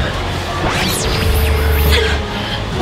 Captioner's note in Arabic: الضوضاء الساكنة